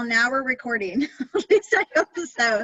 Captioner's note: laughs